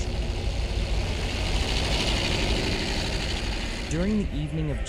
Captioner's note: engines rumbling